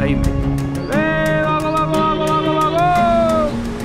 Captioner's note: playfully shouting